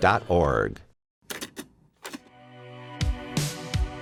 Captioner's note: cassette clicking